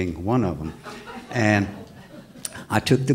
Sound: audience laughs

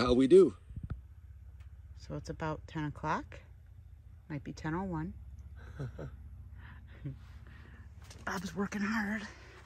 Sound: laughter

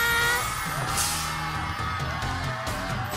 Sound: cheers

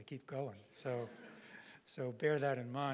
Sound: audience laughing

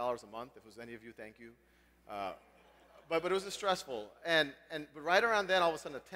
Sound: laugh

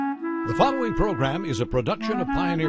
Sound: voiceover

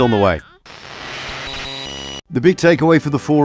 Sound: static sounds

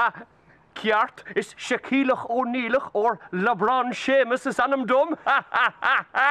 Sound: painful laughter

